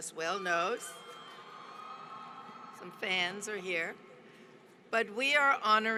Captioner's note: applause